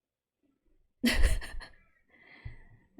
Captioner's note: laughs